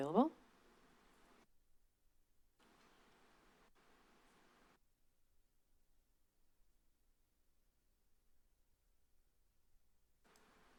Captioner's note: silence